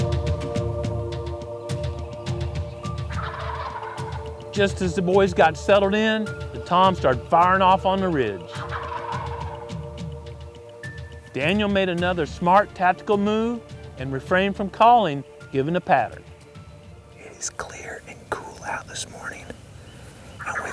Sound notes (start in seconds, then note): 17.4 whispering